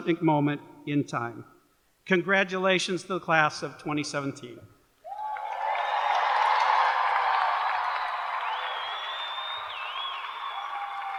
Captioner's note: cheers and applause